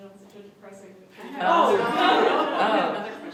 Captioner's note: laughter